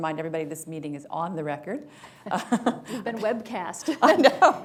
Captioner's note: laughter